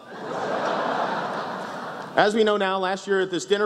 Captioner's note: laughs